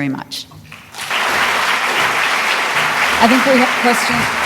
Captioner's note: applause